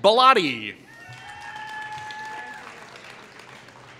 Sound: applause

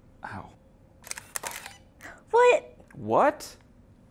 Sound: camera shutter clicks

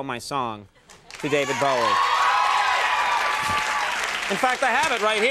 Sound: crowd cheering

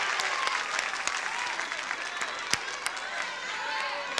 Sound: audience shouting

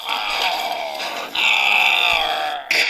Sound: Troll Screaming; troll Grunting

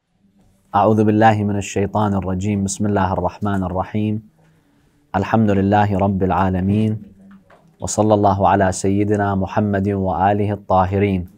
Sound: Arabic

